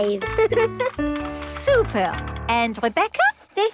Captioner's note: giggles